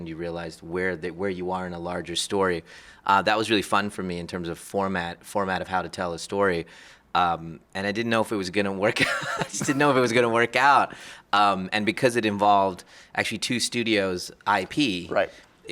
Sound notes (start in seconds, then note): 9.0 laughs